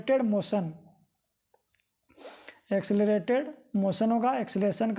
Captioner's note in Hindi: नाक से की जाने वाली आवाज़